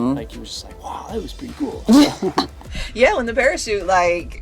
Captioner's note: laughs